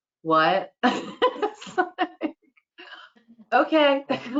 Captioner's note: laughter